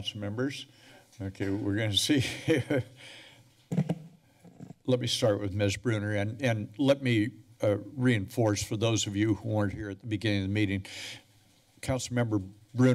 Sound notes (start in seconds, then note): 3.0 laughs